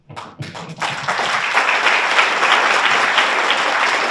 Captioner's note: audience applauds